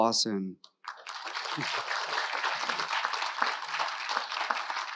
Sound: audience applauding

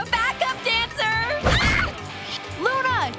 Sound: screams

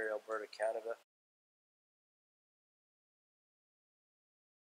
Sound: silence

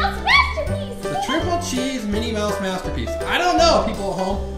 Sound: voiceover

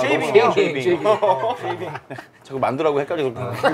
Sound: laughing

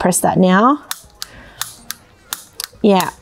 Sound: clicking sound

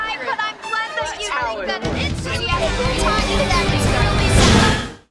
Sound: overlapping chatter

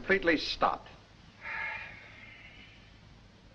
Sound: sigh

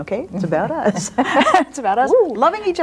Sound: laughs

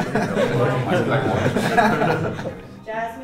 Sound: men laughing; laughs

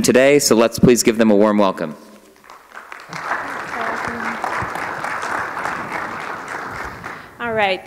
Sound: applause

